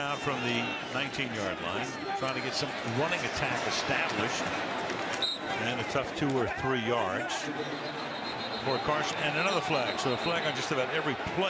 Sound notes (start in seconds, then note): 5.2 whistle